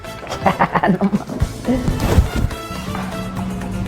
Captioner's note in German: lacht